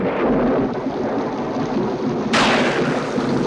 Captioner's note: thunder booming